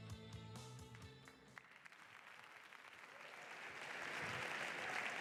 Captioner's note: applause